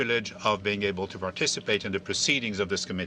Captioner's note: speaking French